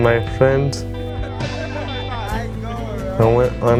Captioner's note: laughter